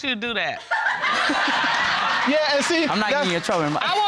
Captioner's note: all laughing